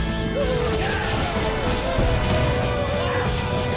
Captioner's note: triumphant music; soldiers yelling